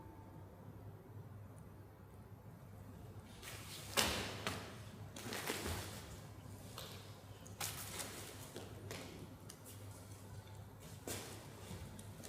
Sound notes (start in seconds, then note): none